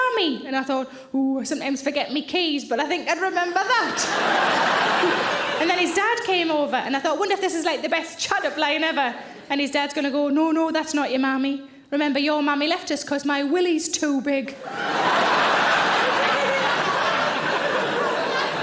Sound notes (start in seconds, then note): 3.9 audience laughing; 14.6 audience laughing